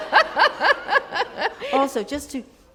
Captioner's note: laughter